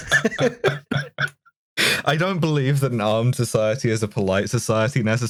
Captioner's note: laughter